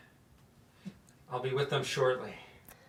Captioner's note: takes a breath